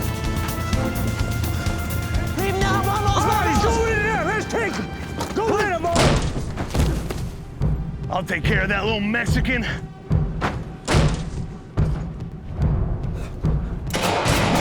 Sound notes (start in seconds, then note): 0.1 running footsteps; 3.0 shouting; 6.8 door opens, thud; 10.8 door slams closed; 12.7 tense music